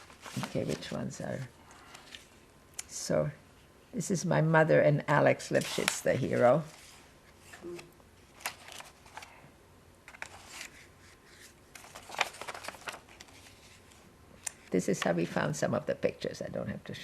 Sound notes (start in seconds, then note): 7.6 pauses 8 seconds